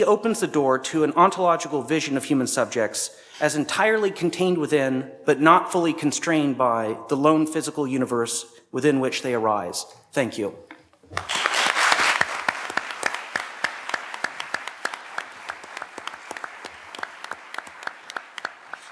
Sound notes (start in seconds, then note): 11.1 applause